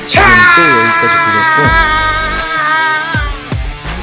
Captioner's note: scream